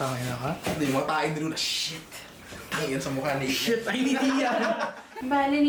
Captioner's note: laughter